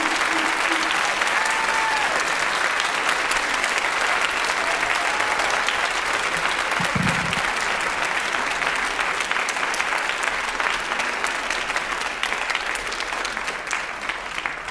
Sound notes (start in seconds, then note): 3.5 applause